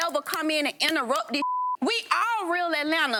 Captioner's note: beep